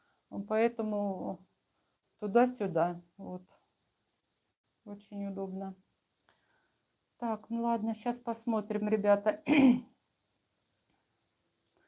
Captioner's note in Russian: откашливается